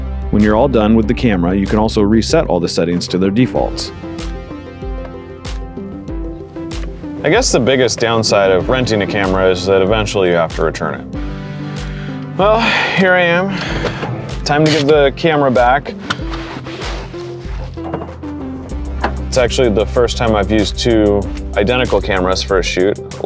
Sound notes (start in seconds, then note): 16.0 seatbelt unfastens and rustles; 17.3 vehicle door opens